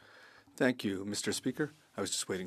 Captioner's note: speaking French